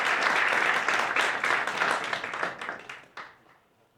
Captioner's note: audience applauds